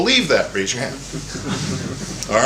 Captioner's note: laughter